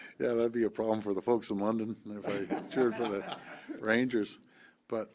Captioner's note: laughter